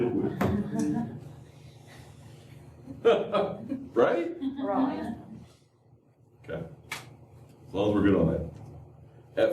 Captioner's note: laughter